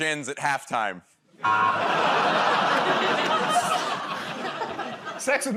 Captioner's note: laughter, buzzer